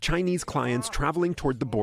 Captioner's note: speaking in a global language